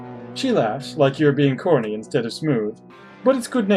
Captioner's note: none